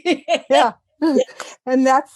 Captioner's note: laugh